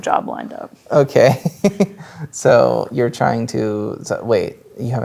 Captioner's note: chuckles